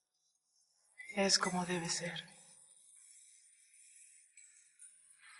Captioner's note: foreign language